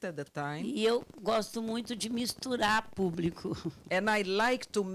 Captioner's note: speaking Portuguese